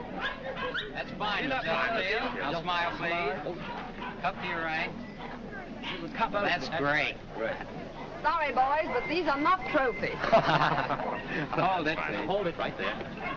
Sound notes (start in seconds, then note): 10.1 laughing